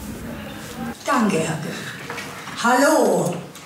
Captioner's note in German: Lautsprecher